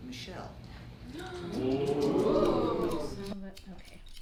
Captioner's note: audience oohs